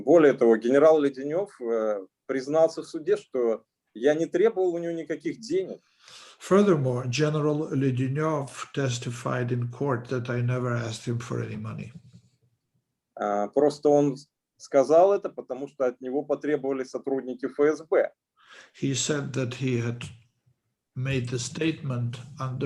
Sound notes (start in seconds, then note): 0.3 speaking Russian language; 13.5 speaking Russian language